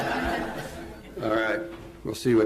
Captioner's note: laughter